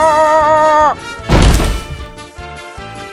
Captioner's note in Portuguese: pow